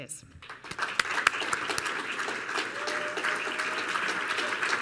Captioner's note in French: Applaudissements